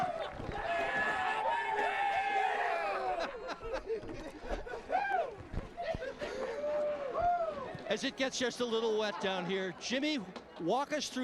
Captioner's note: cheers and applause